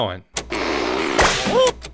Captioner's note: balloon squeaking; balloon pops